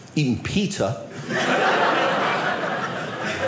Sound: audience laughing

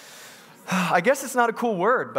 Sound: sighs

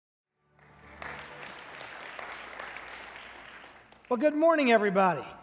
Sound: congregation clapping

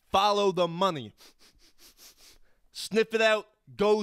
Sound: sniffing

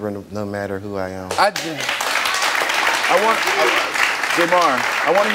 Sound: audience applauds

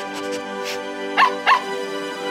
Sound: barking

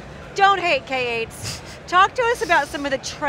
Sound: giggles

